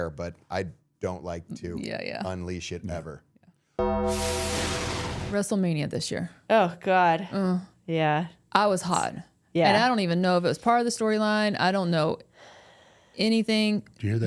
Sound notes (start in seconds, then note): 3.8 logo dings; 3.8 logo whooshing